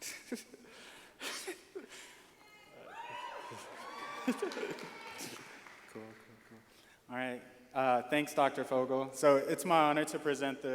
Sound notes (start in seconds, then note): 0.0 laughing; 2.4 audience cheering